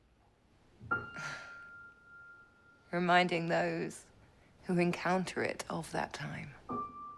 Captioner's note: chuckles